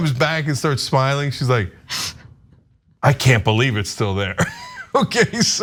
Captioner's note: laugh